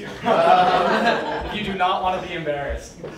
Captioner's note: crowd laughs